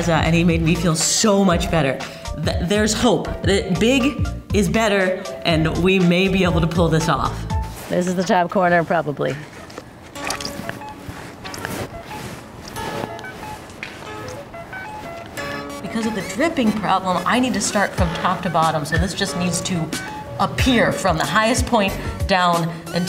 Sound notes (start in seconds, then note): 10.1 paint splattering; 12.7 jaunty music